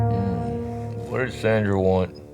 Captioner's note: Craig groans